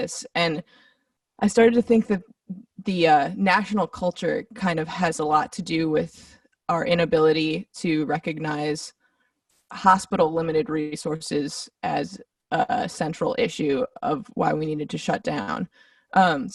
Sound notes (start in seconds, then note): none